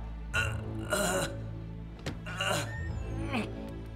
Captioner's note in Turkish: Kapı açılma sesi